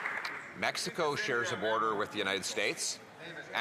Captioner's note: some Applause